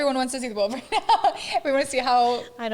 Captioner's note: laughing